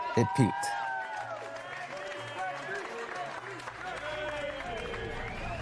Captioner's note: people shouting and clapping